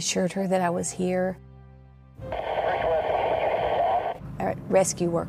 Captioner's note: police radio